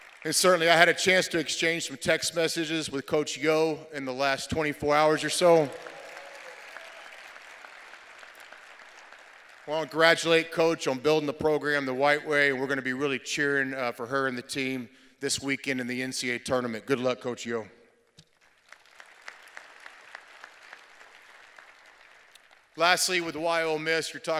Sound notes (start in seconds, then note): 5.4 cheers and applause